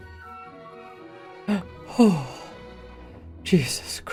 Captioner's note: gasp followed by sigh of relief